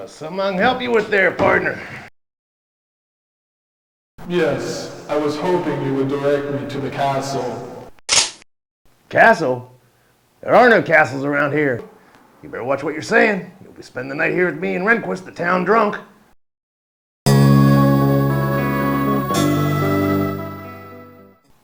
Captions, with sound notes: - Something I can help you with there, partner? - Yes. I was hoping you would direct me to the castle? (gun clicks) - Castle? There are no castles around here. You better watch what you're saying. You'll be spending the night here with me and Renquist, the town drunk. (foreboding guitar music)